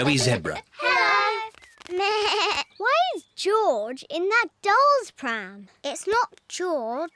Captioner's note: bleats